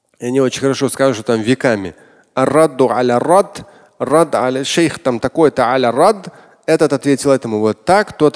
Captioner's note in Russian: говорит на арабском